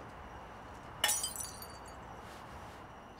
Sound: glass shatters

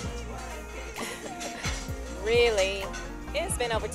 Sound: chuckles

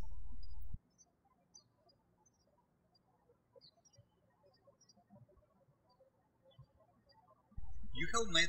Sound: birds chirping

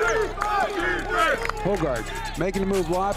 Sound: players Shouting

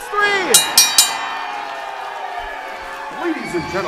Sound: bell rings

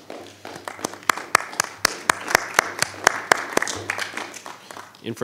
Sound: attendees applauding

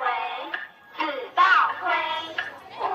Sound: none

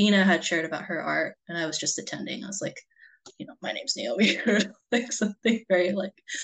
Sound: laughs

